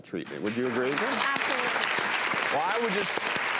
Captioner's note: applause